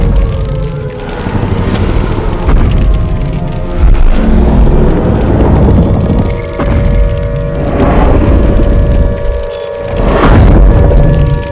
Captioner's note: Godzilla stomping